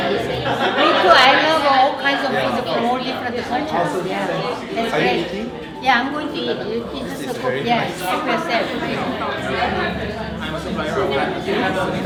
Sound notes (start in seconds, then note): 8.4 party chatter